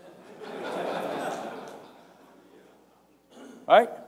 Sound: laughter

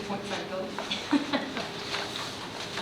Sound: laughing

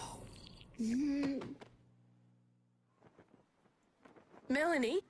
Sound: groans

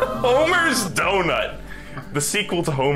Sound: laughing

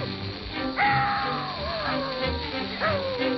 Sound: dog howls

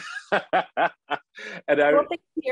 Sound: laughing

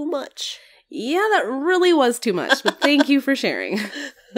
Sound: laugh

